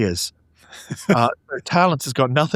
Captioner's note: laughing